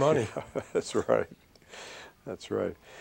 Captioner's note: laughter